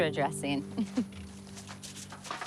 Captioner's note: chuckles